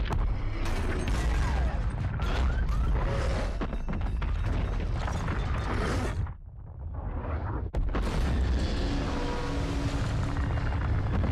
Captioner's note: loud rumbling explosion; loud rolling explosion